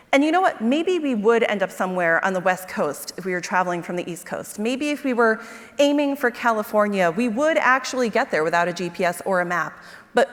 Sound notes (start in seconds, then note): none